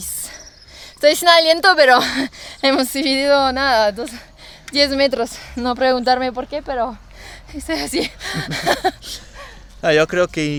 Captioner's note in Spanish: risas